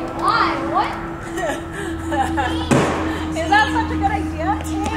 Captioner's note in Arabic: يضحك